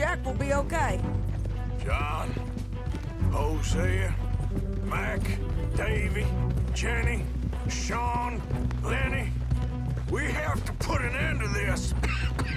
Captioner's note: coughs